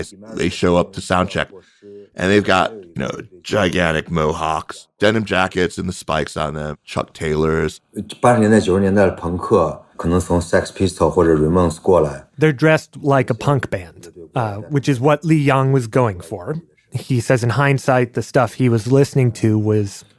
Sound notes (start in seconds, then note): 0.0 speaking Mandarin Chinese; 8.5 speaking Mandarin Chinese